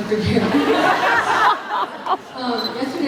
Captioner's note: laughs